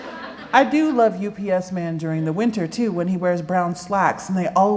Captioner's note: laughter